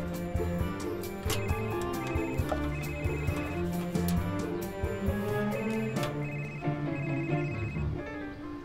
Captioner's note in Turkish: Telefon zili sesi